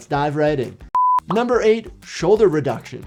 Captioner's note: beep